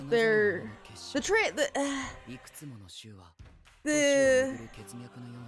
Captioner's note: heavy sigh